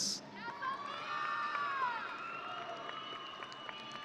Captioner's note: audience cheering